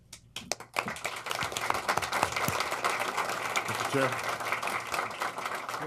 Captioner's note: applause